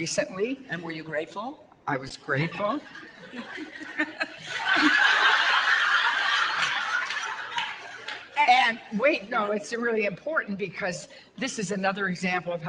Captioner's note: audience laughter